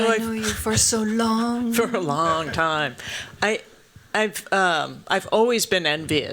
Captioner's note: laughs